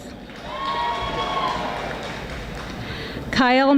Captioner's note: audience applauding